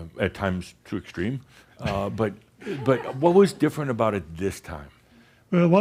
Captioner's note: chuckles